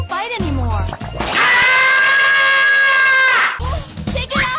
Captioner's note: Tom screaming sound